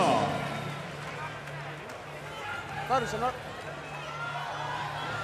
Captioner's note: cheering